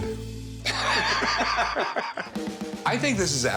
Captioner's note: laughter